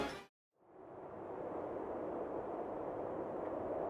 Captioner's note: wind howling